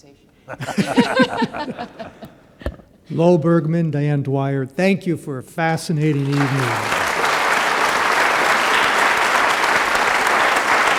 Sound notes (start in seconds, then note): 0.4 laughter; 6.0 applause